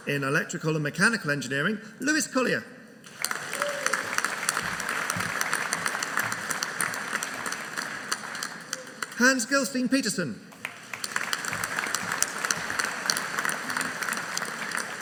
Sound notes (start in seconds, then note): 3.0 audience applauding